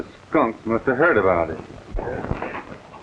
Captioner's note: hoofbeats